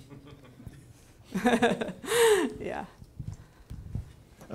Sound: laughing

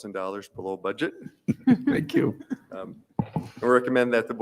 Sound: chuckles

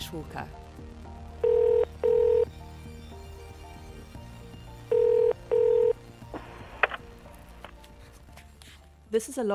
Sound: phone rings

